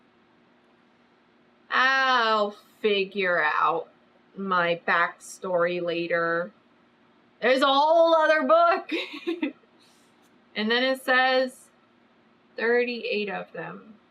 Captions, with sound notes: I'LL FIGURE OUT MY BACKSTORY LATER THERE'S A WHOLE OTHER BOOK [LAUGHS] AND THEN IT SAYS 38 OF THEM